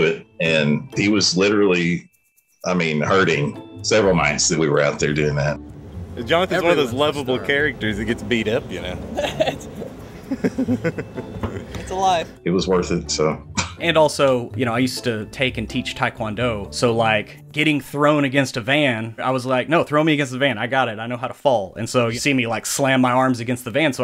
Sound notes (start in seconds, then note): 9.2 laughing; 13.4 chuckles